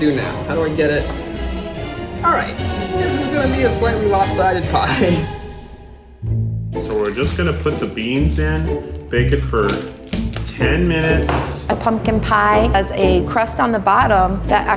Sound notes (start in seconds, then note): 4.7 laughing; 6.2 lighthearted music